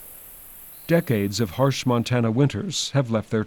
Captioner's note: wind